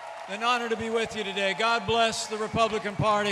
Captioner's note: applause